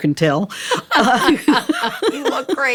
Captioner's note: laughter